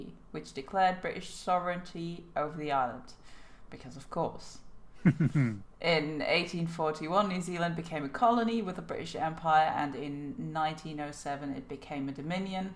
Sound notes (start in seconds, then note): 5.0 chuckles